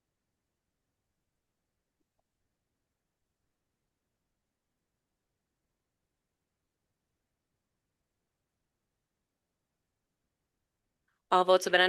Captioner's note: silence